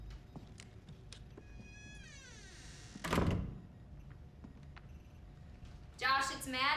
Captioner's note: door creaks; thuds